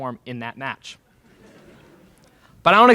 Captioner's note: laughter in crowd